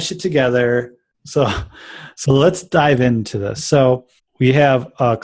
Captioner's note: laughs